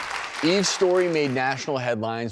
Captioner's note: audience clapping